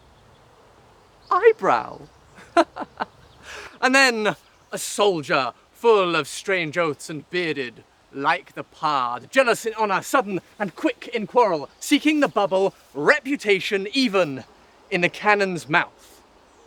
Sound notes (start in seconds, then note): 2.3 laughs